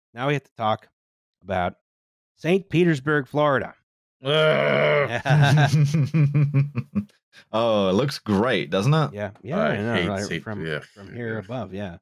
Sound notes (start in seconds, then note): 5.1 chuckles; 5.1 laughter